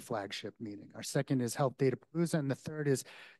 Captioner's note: faintly speaking